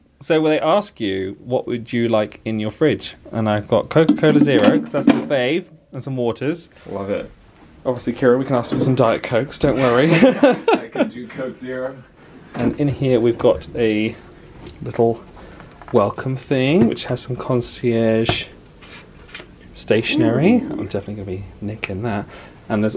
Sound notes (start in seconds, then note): 10.0 laughs